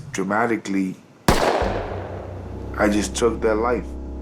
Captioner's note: gun shot